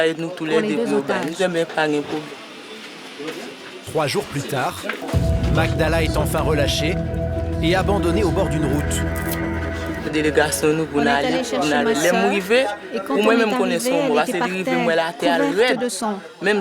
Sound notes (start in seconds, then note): 10.2 French spoken audio